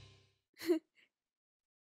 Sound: Pear laughs

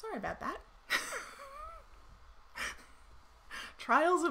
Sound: chuckles softly

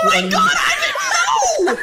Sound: laughter

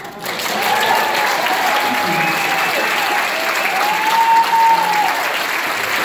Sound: crowd erupts in applause

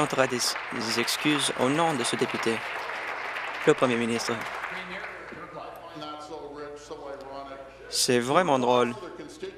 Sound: applause

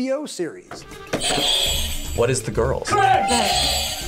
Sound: buzzer rings

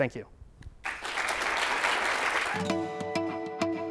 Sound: applause

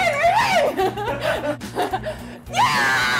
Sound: laughs

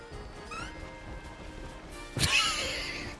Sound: laughs

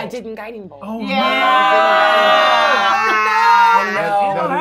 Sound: gamers cheering

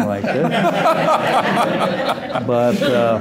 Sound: laughter

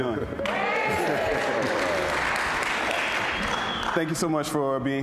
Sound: audience applauding

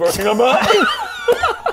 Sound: unrepentant laughter

